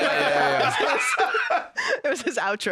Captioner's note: laughs